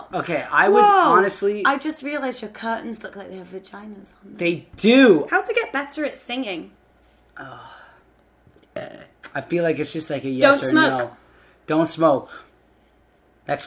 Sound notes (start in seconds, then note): 8.7 burps